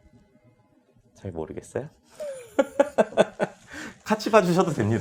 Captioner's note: laughs